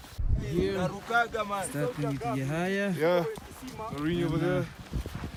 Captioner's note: group chatting